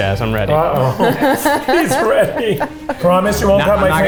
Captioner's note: laugh